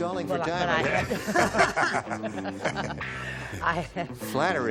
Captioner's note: laughter